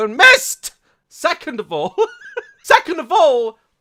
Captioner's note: laughs